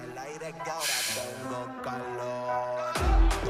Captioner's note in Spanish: Soplido